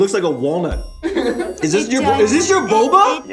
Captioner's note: laughter